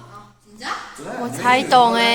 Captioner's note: Korean